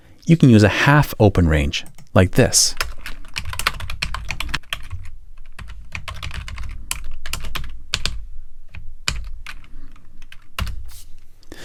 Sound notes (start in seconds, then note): 2.4 keyboard clacking